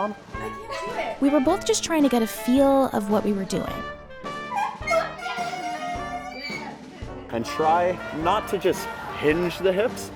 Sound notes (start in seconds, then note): 4.5 squeaking